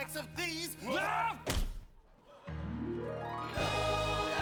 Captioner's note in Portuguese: hooligan grunting